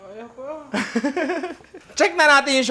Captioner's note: laugh